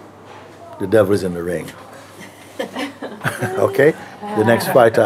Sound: laughter

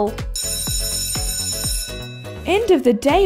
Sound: school bell

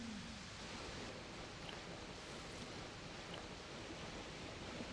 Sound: river flowing

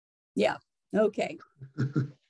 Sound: chuckles

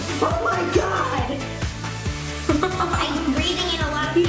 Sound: laughs

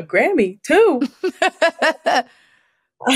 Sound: laughs

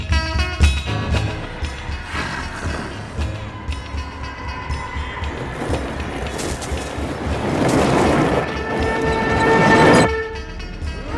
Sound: windsail ride noises

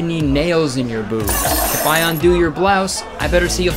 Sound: metal clanging

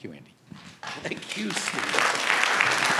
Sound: applause

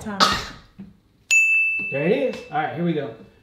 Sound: timer goes off

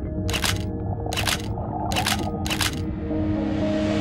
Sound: shutter snapping

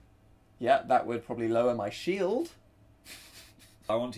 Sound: laughs

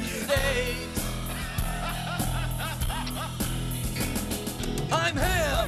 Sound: laughing

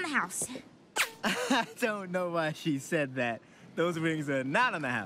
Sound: chuckles

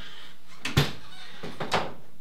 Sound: door closes

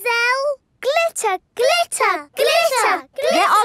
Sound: chanting

